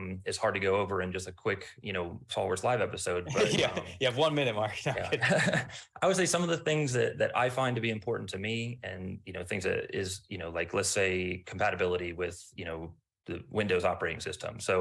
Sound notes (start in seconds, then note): 3.2 laughs; 4.7 chuckles